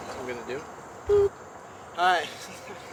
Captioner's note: boop; laughter